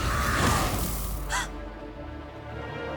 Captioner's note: gasp